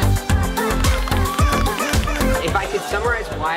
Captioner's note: crowd clapping and shouting